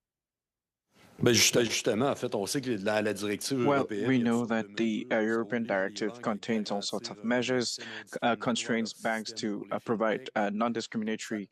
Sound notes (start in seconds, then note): 5.5 speaking French